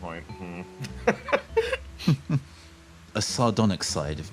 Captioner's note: laughs